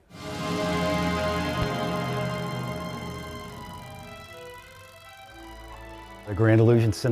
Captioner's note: film reel clicking